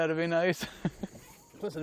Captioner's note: laughter